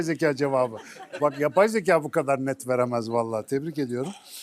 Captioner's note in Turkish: kahkaha